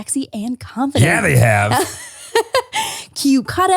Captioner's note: laughs